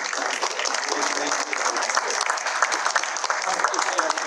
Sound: applause

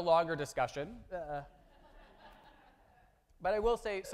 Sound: audience laughing

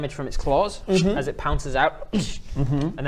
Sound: shh

